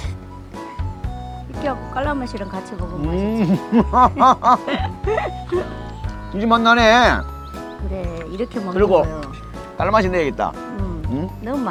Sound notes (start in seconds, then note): 3.0 both laughing